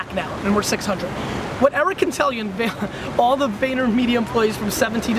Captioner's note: laughs